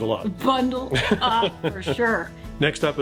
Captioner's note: laughing